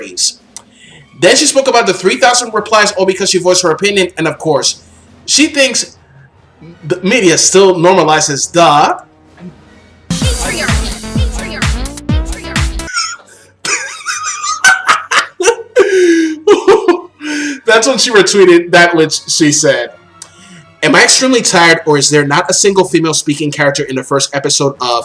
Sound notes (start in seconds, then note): 16.8 laughs